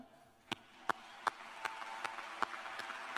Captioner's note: applause